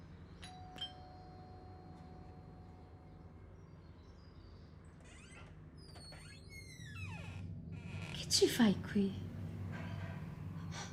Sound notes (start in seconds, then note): 0.7 doorbell rings